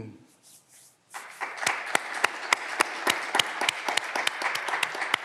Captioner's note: clapping continues